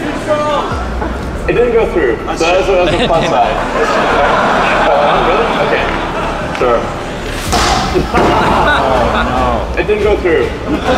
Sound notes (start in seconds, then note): 2.4 crowd laughing; 7.4 metal ball thudding; 7.6 glass cracking; 9.2 crowd moaning